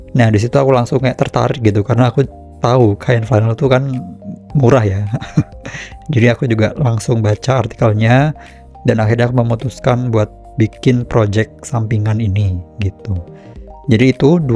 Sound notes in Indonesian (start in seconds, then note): 5.0 tertawa